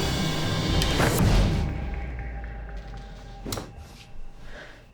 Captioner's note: sheet whooshes